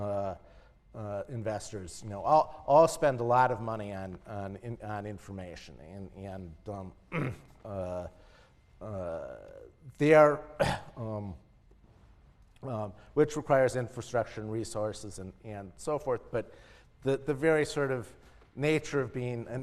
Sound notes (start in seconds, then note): 9.7 cough